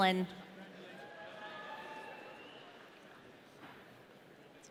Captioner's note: audience cheering